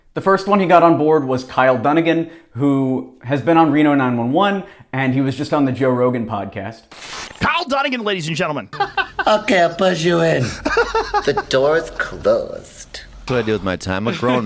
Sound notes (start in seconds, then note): 8.8 laughs; 10.8 laughs